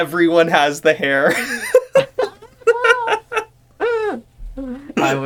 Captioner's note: both laughing in Where's Craig